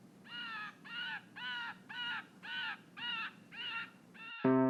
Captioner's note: a bird cackles in the distance